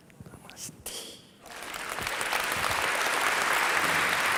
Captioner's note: applause